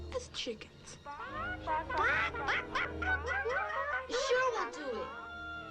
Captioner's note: boys squawking